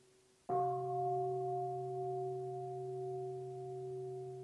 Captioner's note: bell